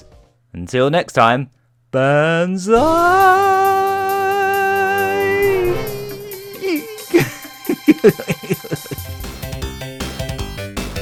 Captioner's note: laughs